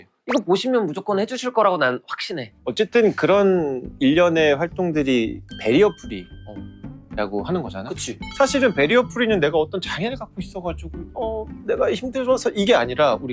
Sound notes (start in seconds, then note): 5.5 sparkling sound effect